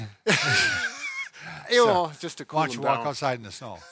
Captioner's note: laughing